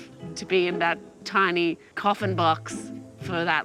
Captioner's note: none